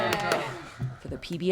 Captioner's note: cheering